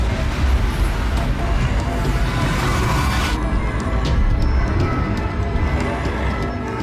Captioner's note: intense ominous music; monster growling